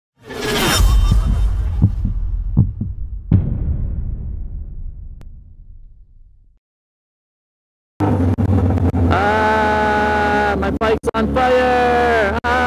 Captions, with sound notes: (electronic sound effect) (heartbeat) (bass drum beat) (motorcycle engine revs) - Ahhhh! My bike's on fire! Ahhhh!